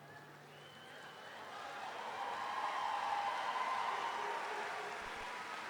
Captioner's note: audience cheering; audience applauding